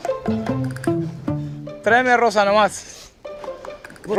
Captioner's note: speaking spanish